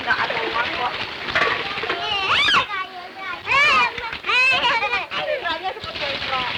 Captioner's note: children playing